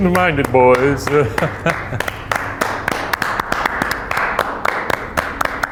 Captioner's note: applauding